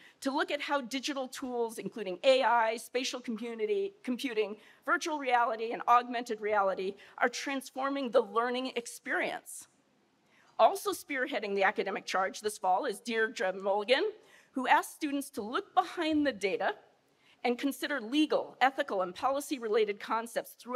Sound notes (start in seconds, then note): none